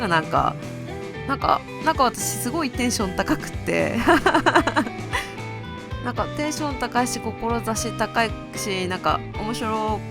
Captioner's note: laughs